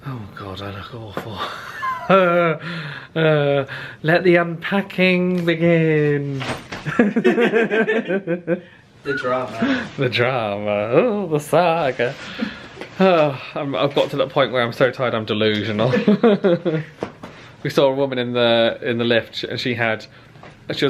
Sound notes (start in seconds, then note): 1.4 laughs wearily; 6.8 both laugh; 15.8 laughs